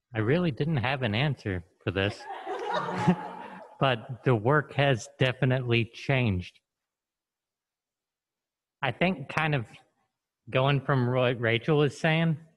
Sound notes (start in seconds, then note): 2.0 group laughs